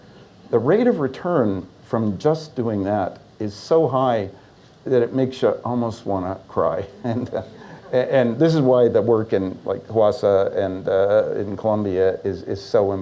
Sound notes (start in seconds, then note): 6.9 laughs